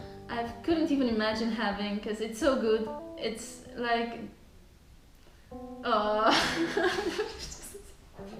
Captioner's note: laughing